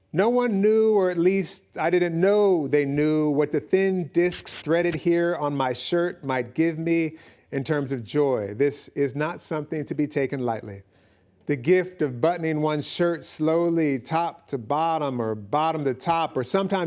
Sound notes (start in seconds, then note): none